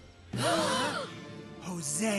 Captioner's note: campers Gasping